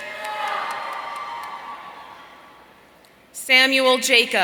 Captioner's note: audience cheering